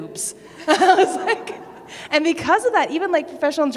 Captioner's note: laughter